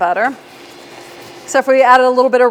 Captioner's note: machine revving